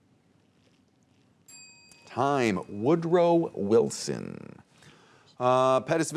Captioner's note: bell dings